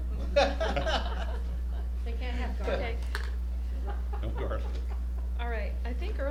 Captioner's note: laughter